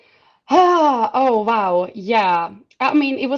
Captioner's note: sighs